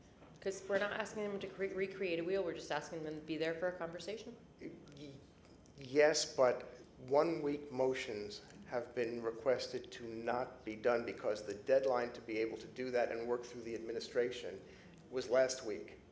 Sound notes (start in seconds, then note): none